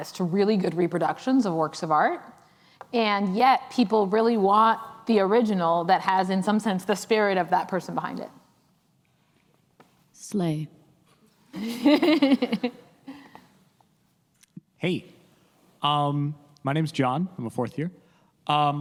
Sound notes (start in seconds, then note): 11.6 laughs